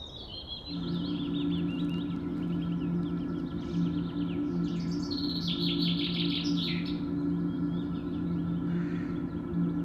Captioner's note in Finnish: luonnon ääniä